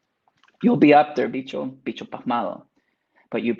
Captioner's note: speaks Spanish